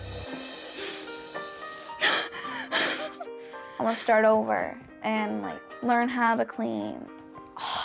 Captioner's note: cries